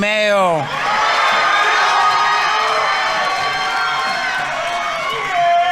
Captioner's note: audience members cheering; audience applauding